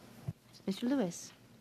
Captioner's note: speaking French